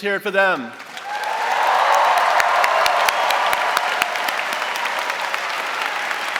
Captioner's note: audience cheering and applauding